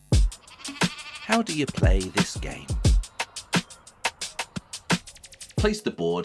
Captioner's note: neon buttons buzz…